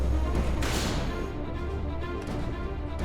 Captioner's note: door thuds; tense dramatic music